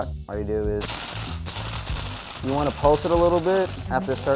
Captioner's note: grinding